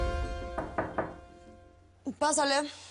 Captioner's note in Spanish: Toques en la puerta